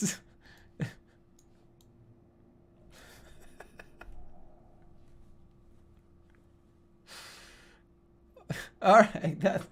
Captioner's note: giggling and cackling